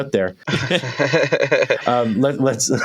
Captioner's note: laughter